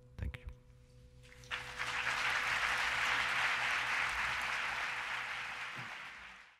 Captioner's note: applause